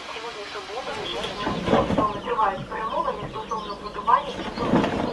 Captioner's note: radio